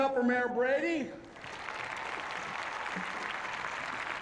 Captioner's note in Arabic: تصفيق